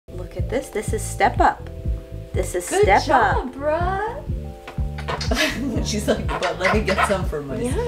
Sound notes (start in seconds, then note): 5.0 lips smacking